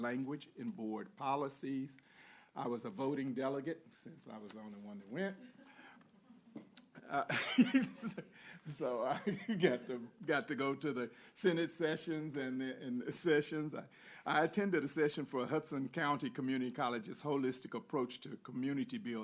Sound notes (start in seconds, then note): 9.1 laughter